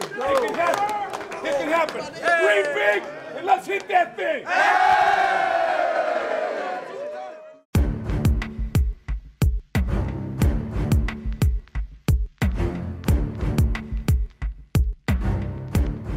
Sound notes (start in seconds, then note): 4.3 cheering